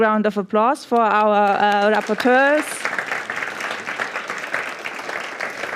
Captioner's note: applause